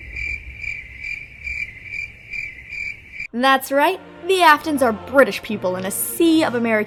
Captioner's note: crickets